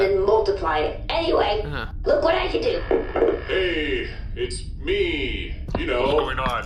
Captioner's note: in AJ’s voice